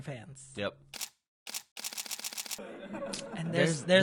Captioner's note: camera shutter